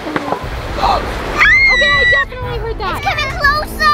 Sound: screams

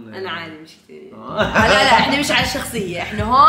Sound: laughs

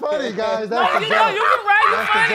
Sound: laughing

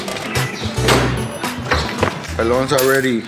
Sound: oil dripping; objects clattering; keys jangling

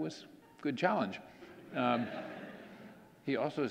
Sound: audience laughing

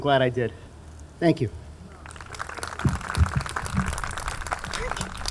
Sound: audience clapping

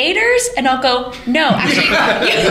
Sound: laughter

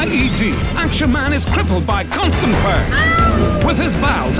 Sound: screams

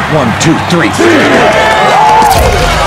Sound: cheering

